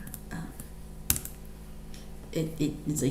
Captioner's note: keyboard clicks